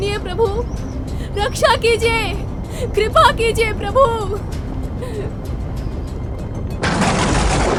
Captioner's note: crying